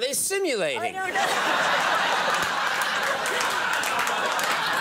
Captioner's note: all laugh